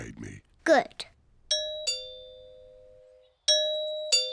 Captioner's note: doorbell rings